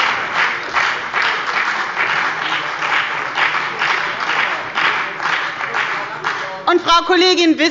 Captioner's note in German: Beifall bei der FDP und bei Abgeordneten der CDU